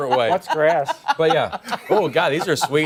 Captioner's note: laughter